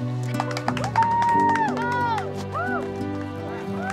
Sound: cheering

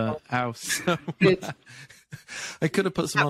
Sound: laughing

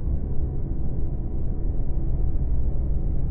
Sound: faint but constant whir

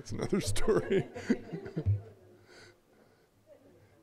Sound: all chuckling

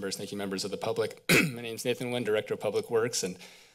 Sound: clears throat

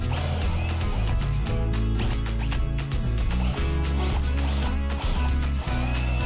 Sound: upbeat music; drill whirring

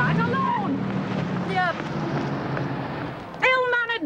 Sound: vehicle rumbles

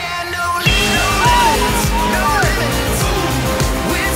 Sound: voiceover

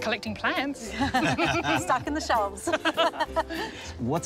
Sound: laughs

